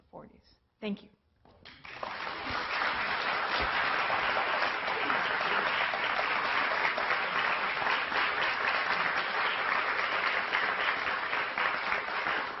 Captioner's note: applause